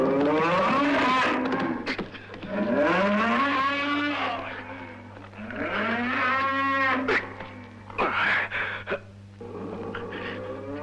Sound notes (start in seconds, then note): 0.0 bull roaring; 6.8 grunting